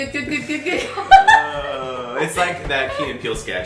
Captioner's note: laughing